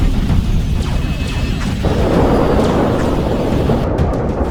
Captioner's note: cannons blasting